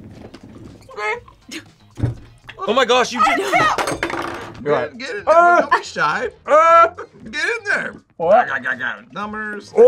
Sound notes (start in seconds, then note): 6.6 yells